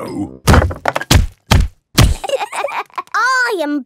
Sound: banging

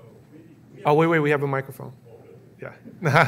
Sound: man speaking off mic

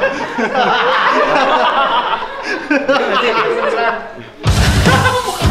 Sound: laughing out loud

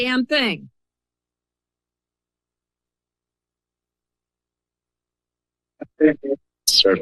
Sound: silence

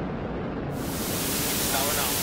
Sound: television static sound

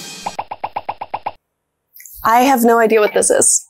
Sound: text popping

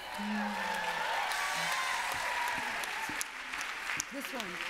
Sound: applause

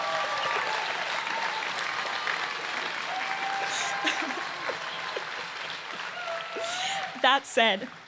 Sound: laughter

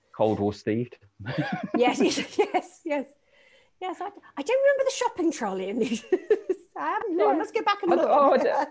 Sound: laughing

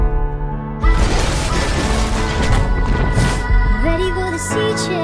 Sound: shockwave; crashing

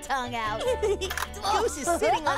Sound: giggling

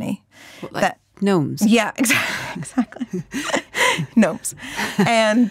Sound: laughs

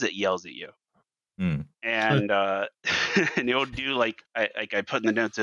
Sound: laughs

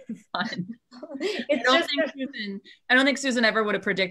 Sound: laughing

